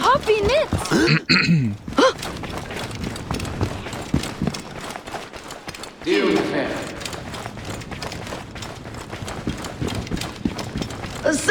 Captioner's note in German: räuspern